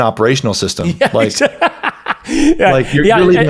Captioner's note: laughs